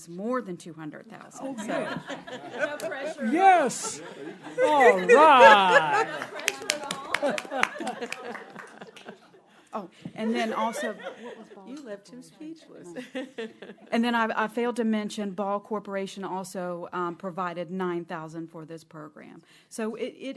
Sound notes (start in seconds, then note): 1.5 laughter; 4.3 applause